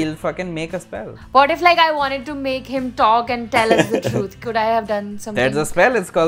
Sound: laughter

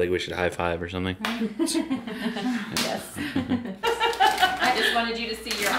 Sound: laughing

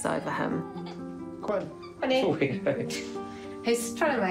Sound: chuckles

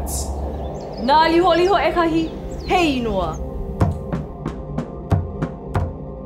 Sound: speaking in a foreign language

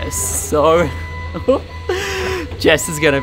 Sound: giggles

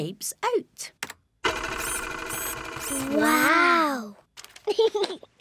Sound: printer whirring; giggles

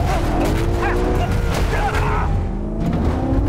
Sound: grunting

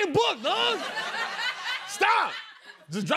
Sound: laughter

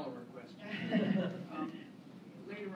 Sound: laughter

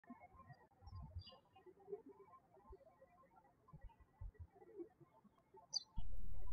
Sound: birds chirping

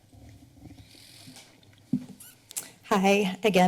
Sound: silent

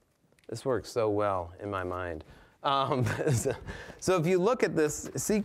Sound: laughing

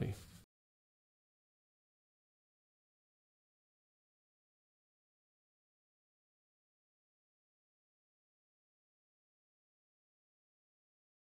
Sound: silence

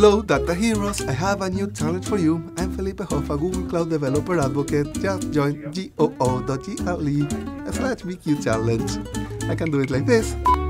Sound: laughs

